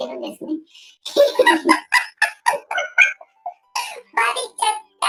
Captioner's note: laughs